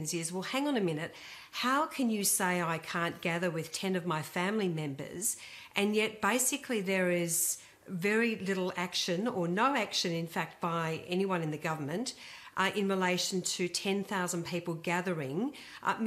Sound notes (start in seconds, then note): none